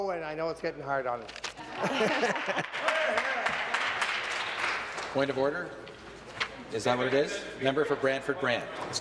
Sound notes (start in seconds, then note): 4.9 chuckles; 5.5 applause